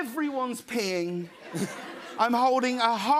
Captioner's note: laughter